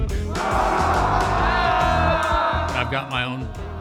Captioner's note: rooks vocalizing